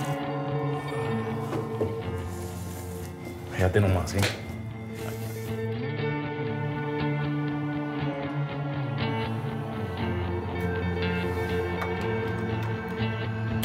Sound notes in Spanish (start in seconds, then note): 5.3 palmada